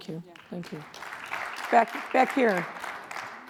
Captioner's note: audience applauds